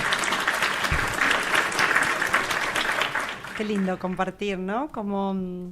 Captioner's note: applause